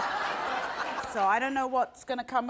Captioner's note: audience laughs